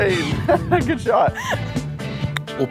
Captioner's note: laughs